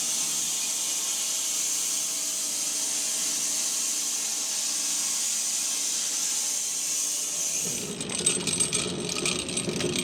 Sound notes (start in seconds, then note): 5.0 mill whirring